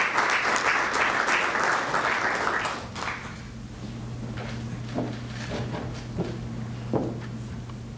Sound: applause

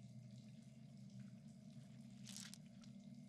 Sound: none

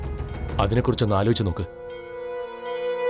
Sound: ritualistic bell rings

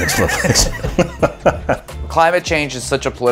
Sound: laughing

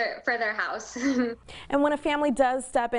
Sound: laughs

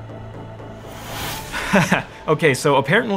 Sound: chuckles

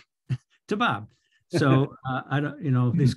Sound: chuckles

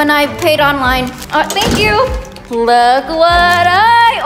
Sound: door closes

